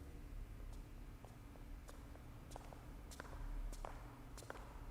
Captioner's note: footsteps tapping